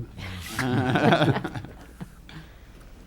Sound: laughs

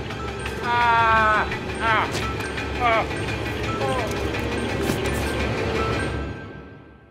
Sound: laughing; gurgling

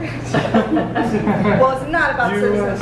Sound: chuckles

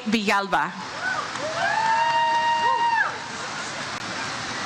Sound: crowd cheers

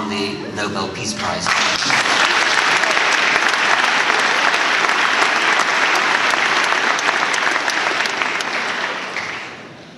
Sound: applause

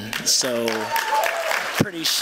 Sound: applause

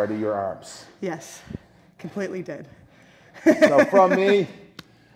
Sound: laugh

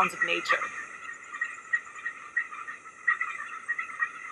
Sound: animal chirping

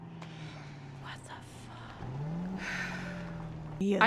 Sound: whispers

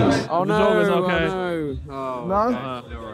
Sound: group groaning

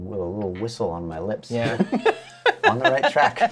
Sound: laughter

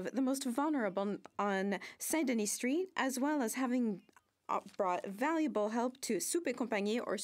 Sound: speaking French

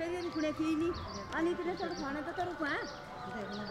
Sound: talking among themselves

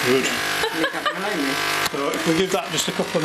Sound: laughing

